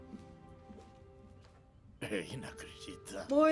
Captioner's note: grumbling